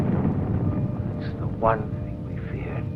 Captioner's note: explosions